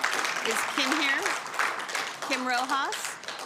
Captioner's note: cheering/Applause; applause